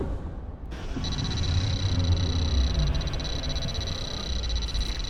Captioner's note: interface chiming